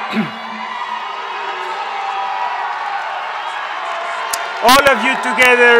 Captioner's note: members of the audience cheer